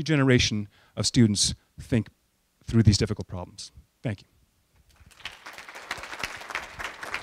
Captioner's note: applause